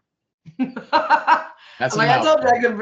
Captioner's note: laughing